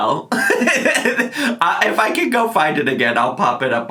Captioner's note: laughs